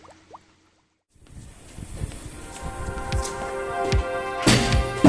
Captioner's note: chair Scraping